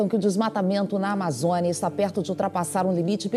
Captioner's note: news in Portuguese